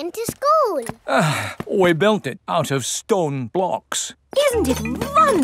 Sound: sighs

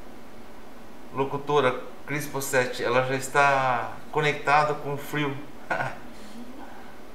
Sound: laughs

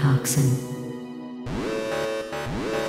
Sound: alarm

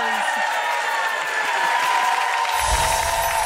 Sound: applause

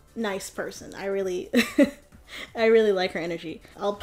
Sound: chuckles

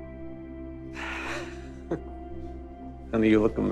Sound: chuckles

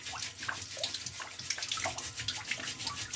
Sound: whetting, splashing

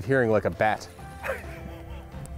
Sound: laughs

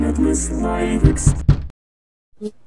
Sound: knockity knockity

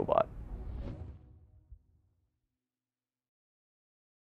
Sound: logo whooshing

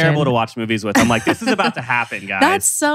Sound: laughs

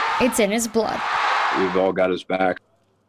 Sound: crowd noise

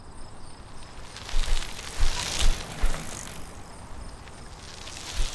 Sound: bikes rattling

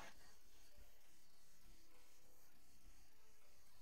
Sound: mouthing

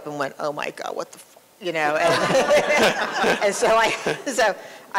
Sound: laughter

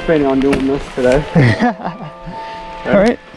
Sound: laughs

